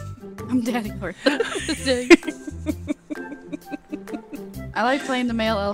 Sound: laughing

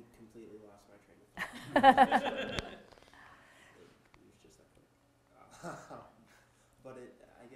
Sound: audience laughter

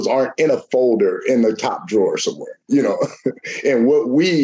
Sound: chuckles

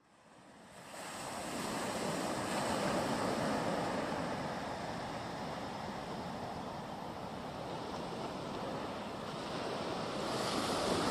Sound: ocean waves

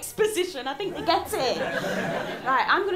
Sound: laughter

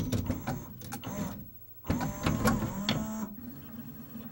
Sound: same whirr as tray is drawn in; various mechanical noises

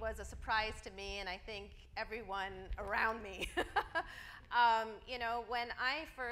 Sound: laughs

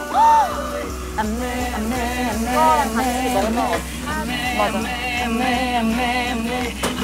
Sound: excited

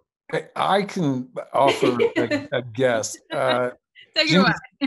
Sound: laughs loudly

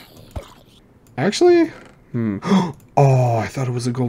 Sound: gasp

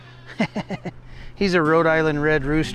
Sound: laughing

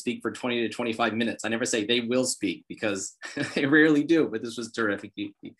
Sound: laughs

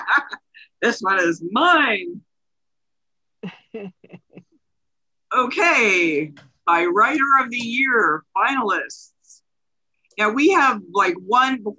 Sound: laughs

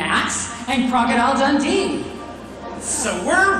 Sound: audience laughing mildly

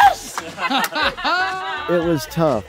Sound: laughter

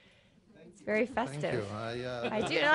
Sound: laughter

